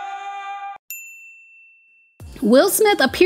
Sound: bell dinging

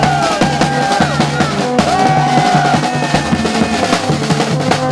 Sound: crowd cheering

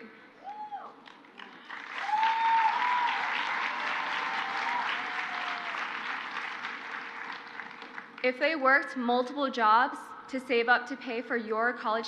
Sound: crowd applauds; crowd cheers

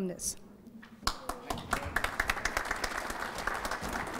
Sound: applause

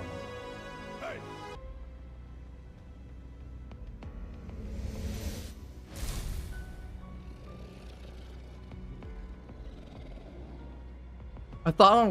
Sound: grunting

